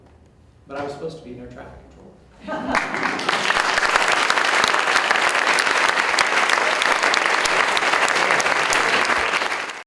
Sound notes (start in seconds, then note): 2.7 audience Applauding